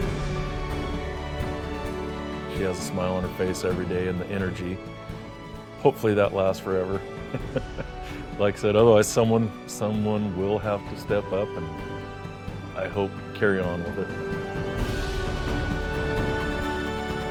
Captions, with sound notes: (inspiring instrumental music) She has a smile on her face every day and the energy. Hopefully that lasts forever. (chuckles) Like I said, otherwise, someone will have to step up and I hope carry on with it.